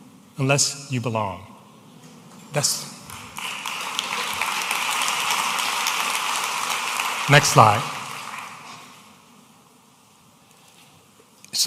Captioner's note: audience applauding